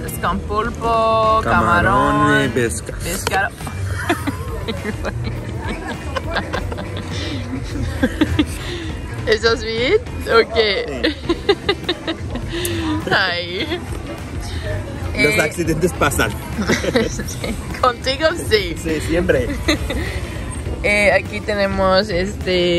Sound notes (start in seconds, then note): 6.8 laughs